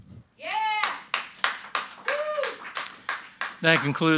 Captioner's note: audience applauding and cheering